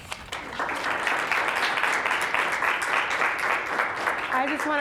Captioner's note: applause